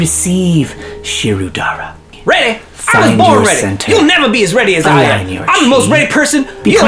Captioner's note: arguing